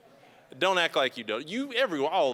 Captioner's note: crowd murmuring